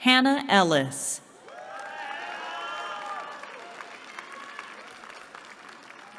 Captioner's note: cheering